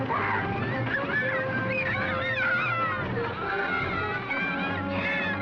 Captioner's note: shouting; children screaming